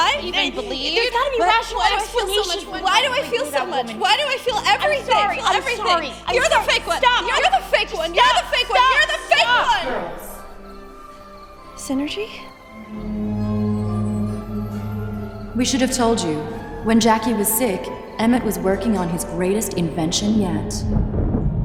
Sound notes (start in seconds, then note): 12.6 electronic whoosh sound